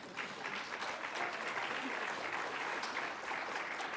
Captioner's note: applause